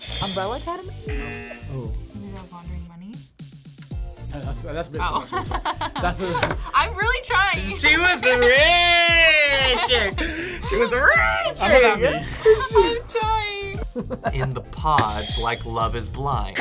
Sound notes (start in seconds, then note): 1.0 buzzer rings; 1.0 buzzer; 5.7 laughs